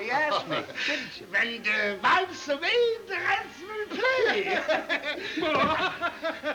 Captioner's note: laughs